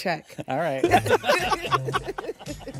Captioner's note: all laugh